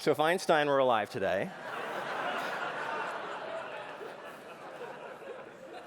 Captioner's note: laughter